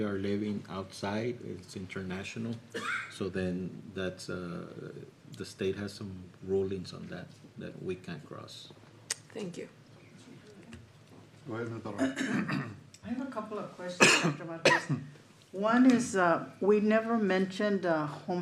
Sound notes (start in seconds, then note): 11.9 clears throat; 14.0 cough